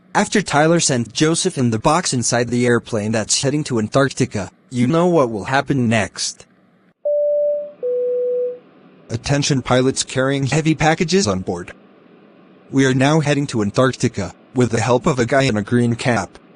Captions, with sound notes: After Tyler sent Joseph in the crate inside the flightcraft that’s heading for the Underland, you know what will happen next! *flightcraft warning beeps* Aughting to skywards bearing heavy wrappings on board! We are now heading to the Underland, with the help of a brethren in a green hat!